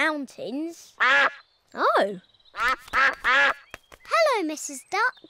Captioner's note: all quack